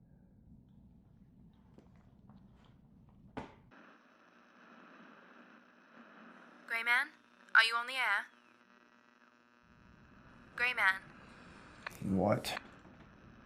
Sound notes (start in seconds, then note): 3.9 radio buzzing